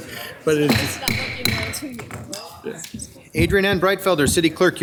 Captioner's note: gavel thumps